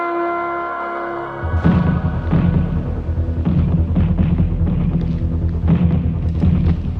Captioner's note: deliberative music; explosions blasting